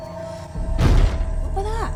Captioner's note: bang